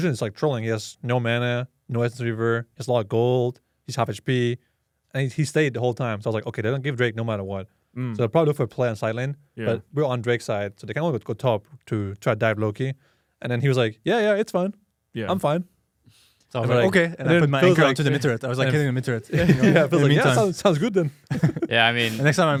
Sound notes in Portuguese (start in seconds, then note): 19.2 risos